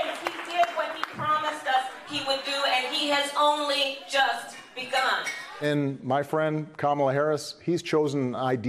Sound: cheers and applause

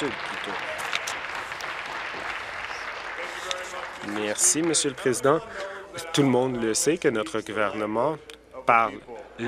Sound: applause

